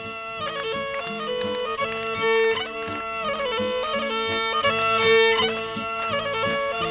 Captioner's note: clapping